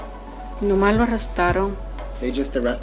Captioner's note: spanish